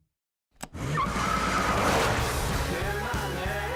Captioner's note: tire screeching